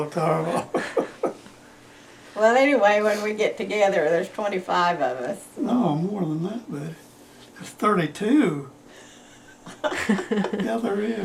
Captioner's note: laughter